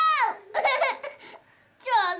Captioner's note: crying